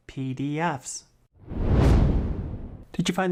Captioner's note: swoosh